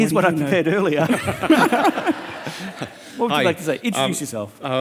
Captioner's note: all laughing